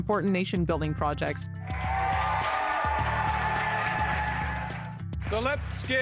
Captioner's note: crowd cheering